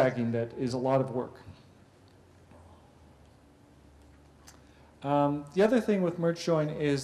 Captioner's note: pause